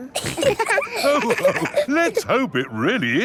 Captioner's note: all laughing